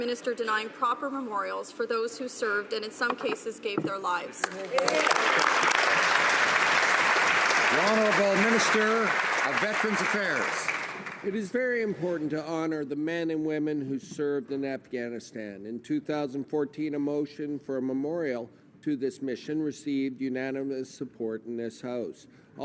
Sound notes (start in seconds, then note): 8.0 some Applause